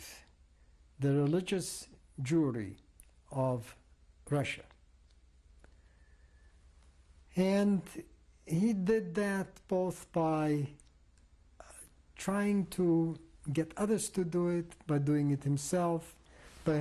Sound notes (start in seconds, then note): 4.6 pauses for 3 seconds